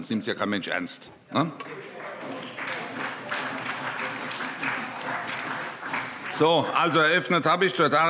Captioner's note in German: Beifall CDU und BÜNDNIS 90/DIE GRÜNEN